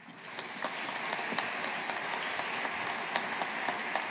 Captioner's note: audience applauding